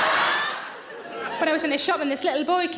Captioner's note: audience laughs